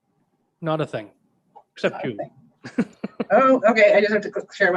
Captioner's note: chuckles